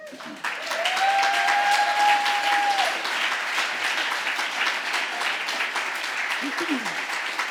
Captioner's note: applause